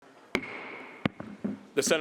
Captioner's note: gavel bangs